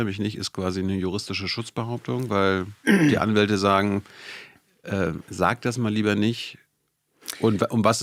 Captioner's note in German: räuspern